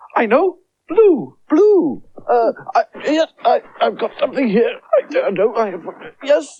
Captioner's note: mutters